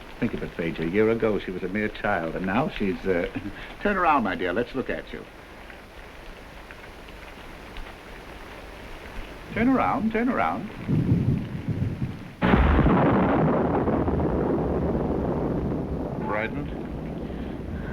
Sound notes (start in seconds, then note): 12.6 thunder roaring